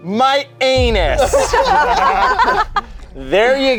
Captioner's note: group laughs